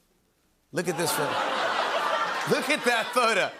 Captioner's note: laughter